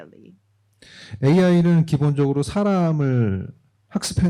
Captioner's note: speaking korean